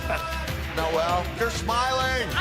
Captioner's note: laughter